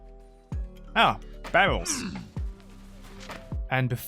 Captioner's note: monke noise